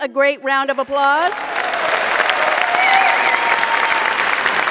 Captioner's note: audience applauds